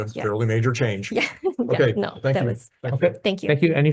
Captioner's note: chuckling